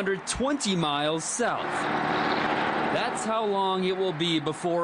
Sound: / :nats of cars

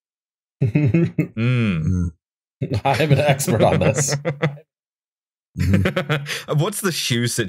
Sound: laughter

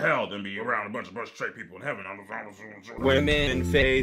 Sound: grumbles

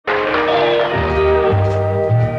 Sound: applause, music

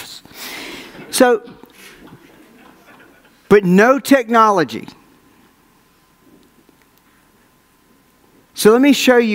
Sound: audience laughs

